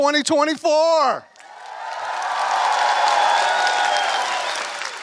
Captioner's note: applause